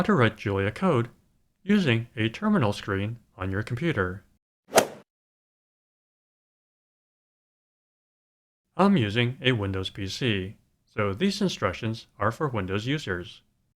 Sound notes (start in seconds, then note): 4.7 swoosh